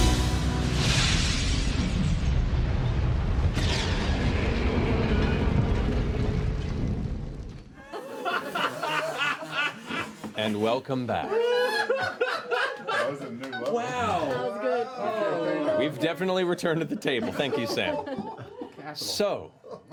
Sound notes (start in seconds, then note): 7.8 laughter